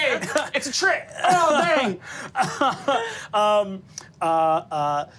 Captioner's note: laughing